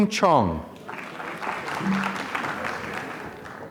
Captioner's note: applause